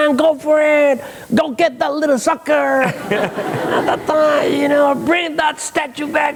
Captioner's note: mumbles